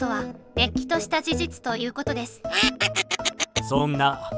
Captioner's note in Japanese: アヒルの笑い声のような鳴き声